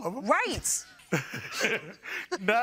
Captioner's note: chuckling